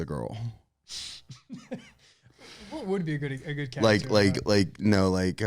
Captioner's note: laughs